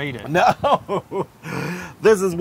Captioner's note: laugh